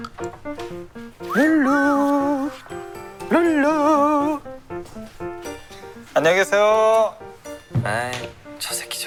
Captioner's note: whistling on the way out